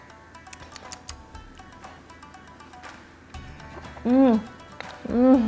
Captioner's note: lips smacking